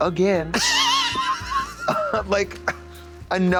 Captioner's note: Katya tee-hees